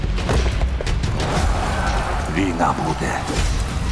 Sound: men yelling

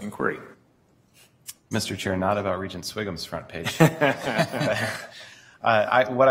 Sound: laughter

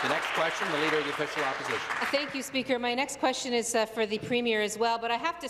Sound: applause

